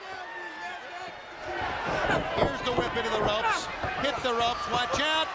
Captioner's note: crowd chatter